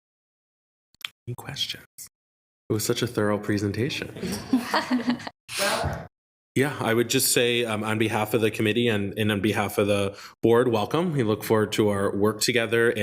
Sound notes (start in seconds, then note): 4.1 attendees laughing